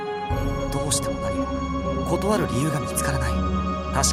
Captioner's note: whisper